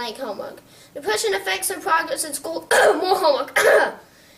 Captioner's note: cough